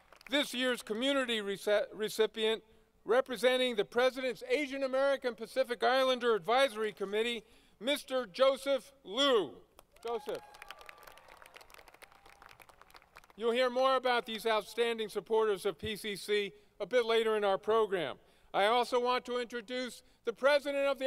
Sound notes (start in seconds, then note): 13.0 applause